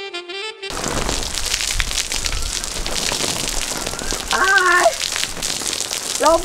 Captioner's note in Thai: เสียงฝน